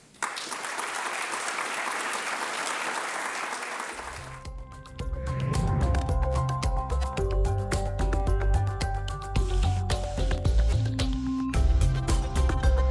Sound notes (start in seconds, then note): 0.0 audience applauds; 5.2 bright music